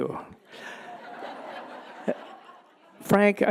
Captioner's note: audience laughing